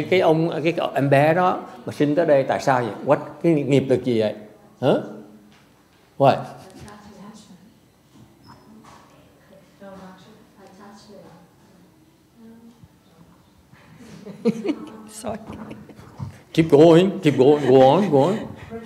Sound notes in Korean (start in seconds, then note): 6.5 청중들 여기 저기서 속닥 속닥 대답 중